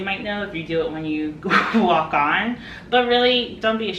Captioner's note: chuckles